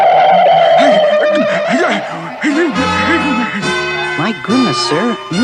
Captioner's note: Adam West Gasps